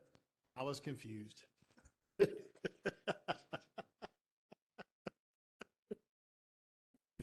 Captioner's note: laughter